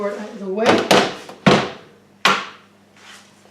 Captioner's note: chopping board thumps onto metal draining board, followed by knife